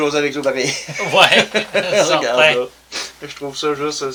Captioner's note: laugh